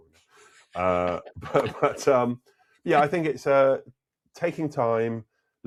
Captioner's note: laughing